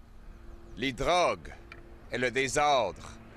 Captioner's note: French